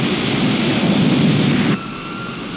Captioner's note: wind whirring